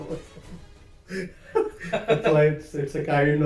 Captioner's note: laughs